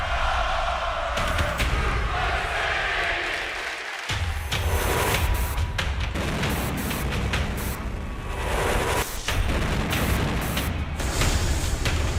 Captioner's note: fans chanting